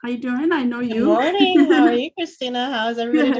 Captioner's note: laughs